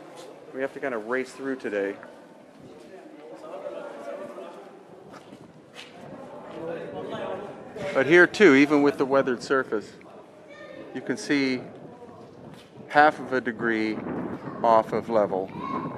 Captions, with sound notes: we have to kind of race through today. (tourists chatting) But here too, even with the weathered surface, you can see half of a degree off of level.